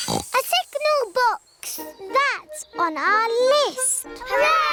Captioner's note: tinging; oinks